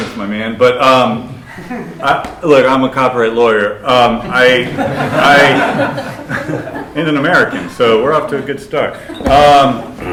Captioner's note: laughter